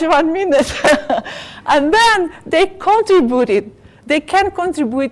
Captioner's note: laugh